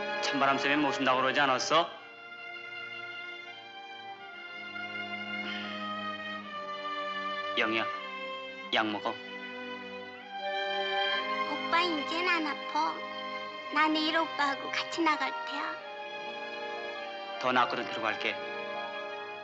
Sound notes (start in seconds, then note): none